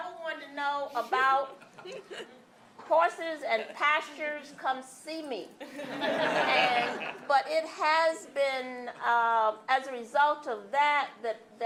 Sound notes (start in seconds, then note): 5.6 laughter